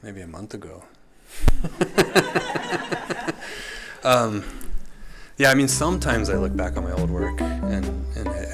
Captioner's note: laughs